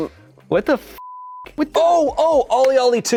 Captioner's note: beep